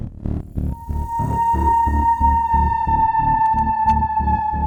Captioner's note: image shrieking